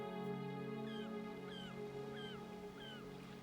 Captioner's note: seagull calling